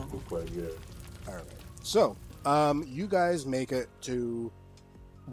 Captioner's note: fire fades away